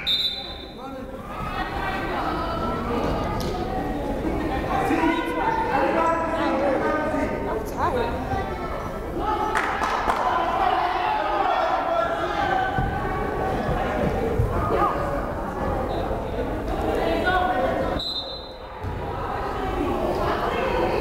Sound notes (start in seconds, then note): 0.0 whistle blows; 3.9 crowd chattering; 18.0 whistle blows